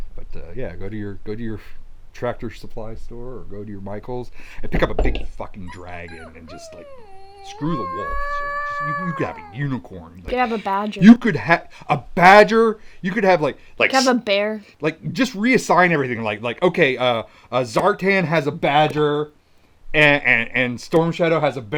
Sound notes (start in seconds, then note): 5.6 puppy crying